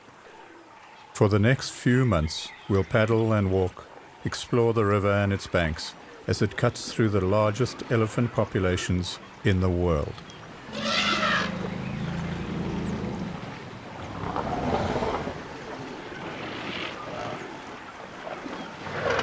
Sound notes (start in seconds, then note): 10.6 elephant trumpets; 14.1 rumbling; 14.1 animals calling